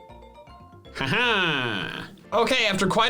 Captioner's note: laughs